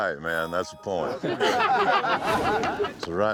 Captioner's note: everyone chuckling